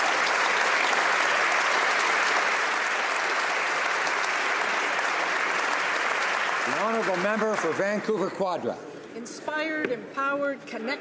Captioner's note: applause